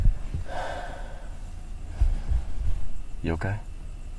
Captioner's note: Bob sighs